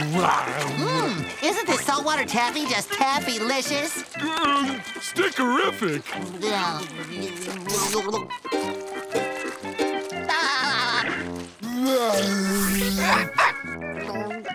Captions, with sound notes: Mm. Isn't the salt water taffy just taffylicious? Stickarific. [laughing] [barking]